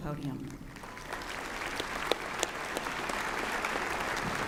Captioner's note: applause